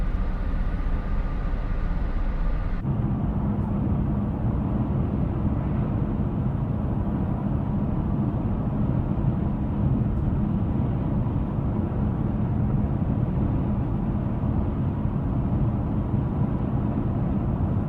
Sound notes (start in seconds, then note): 3.1 car engine hums